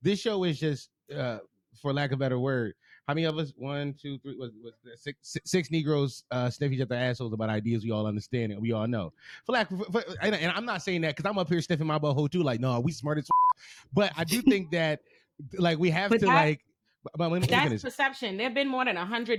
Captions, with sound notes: This show is just for lack of better word. How many of us, one, two, three, what's that? Six Negroes sniffing up their assholes about ideas we all understand and we all know. For lack of, and I'm not saying that because I'm up here sniffing my butt hole too, like no, we smart as (beep) but I do think that like we have to like. That's perception, there've been more than 100